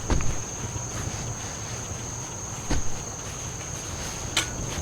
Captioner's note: shoveling noises